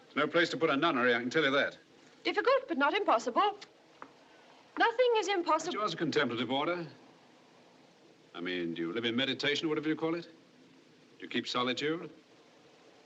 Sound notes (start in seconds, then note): none